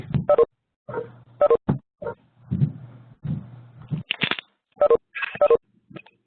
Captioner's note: sounds of video conference hang-ups